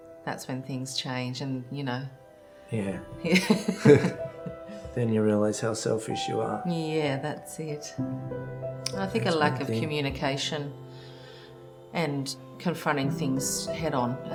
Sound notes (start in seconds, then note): 3.2 both laughing: yeah